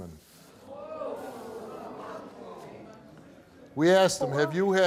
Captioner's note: audience gasp and mutter